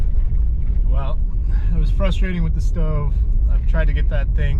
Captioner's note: wind blowing